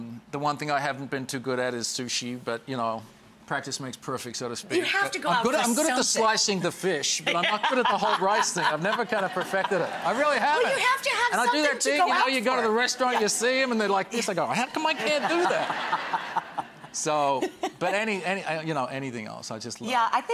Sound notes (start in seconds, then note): 7.2 Rachel laughs; 14.7 Rachel and audience laughs